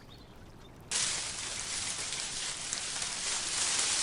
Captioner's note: paws pattering